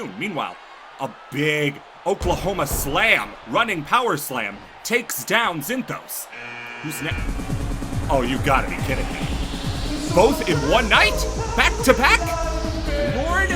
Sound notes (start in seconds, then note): 6.3 buzzer buzzes; 7.2 drum rolling